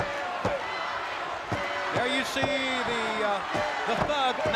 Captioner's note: crowd chatter